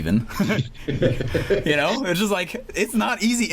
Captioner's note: laughs